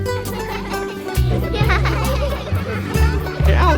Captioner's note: laughter and chatter